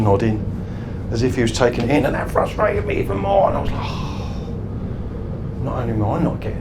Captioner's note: sighs